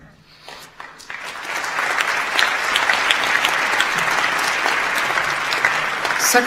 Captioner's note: audience claps